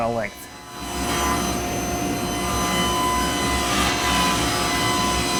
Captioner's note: table saw whirring